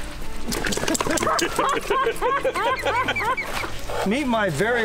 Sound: laughter

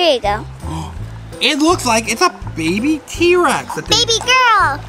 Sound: gasps

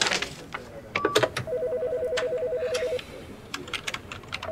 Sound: telephone ringing

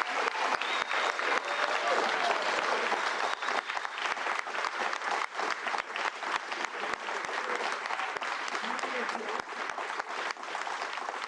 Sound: cheers; cheers and Applause

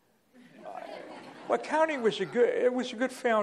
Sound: laughter

